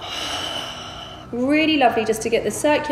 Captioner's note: heavy breathing